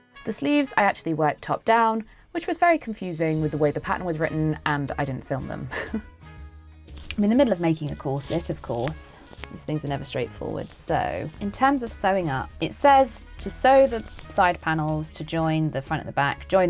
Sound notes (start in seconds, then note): 5.7 chuckles